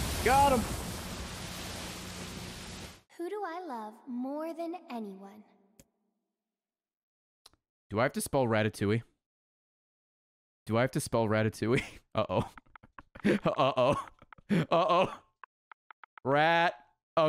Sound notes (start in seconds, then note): 12.2 laughs